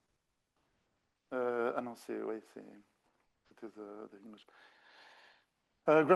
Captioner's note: speaking French